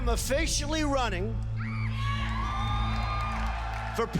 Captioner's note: cheers and applause